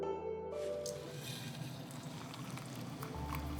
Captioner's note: sink turns on; pouring